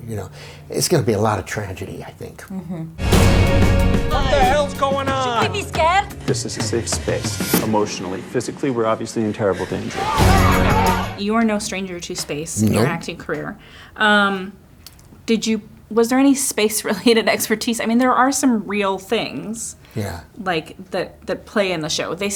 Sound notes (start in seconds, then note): 3.0 upbeat music; 9.8 people shouting